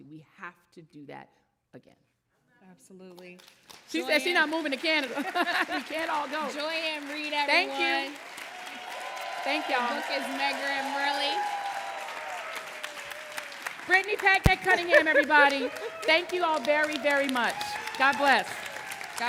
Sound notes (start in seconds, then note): 4.8 laughs; 11.7 audience applauding